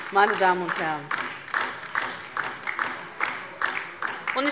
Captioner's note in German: Beifall DIE LINKE